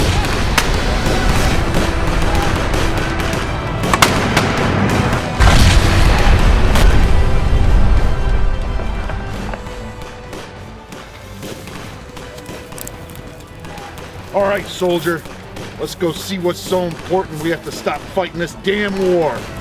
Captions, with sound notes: (explosion bangs) (explosion bangs) All right, soldier. Lets go see what's so important, we have to stop fighting this damn war.